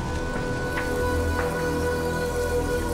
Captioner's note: rustling